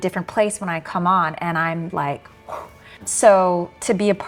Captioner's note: exhales heavily